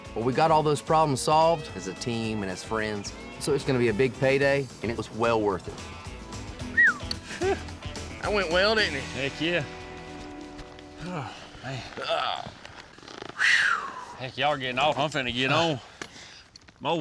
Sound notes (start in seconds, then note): 6.6 whistles; 11.9 grunts